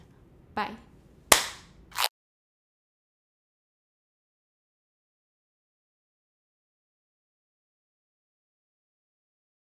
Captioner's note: clap